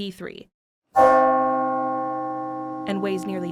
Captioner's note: brass bell chiming